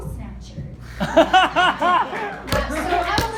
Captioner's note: so much laughter